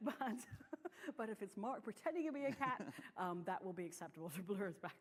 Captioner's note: laughter